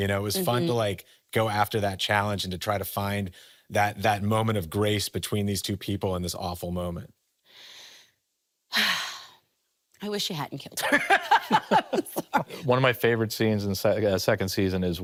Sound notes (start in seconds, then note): 7.5 sighs deeply; 10.8 laughing